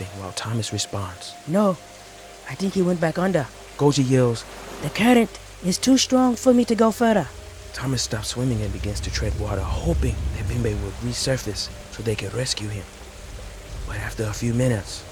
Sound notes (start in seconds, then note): 7.3 river rushes; 7.5 eerie music playing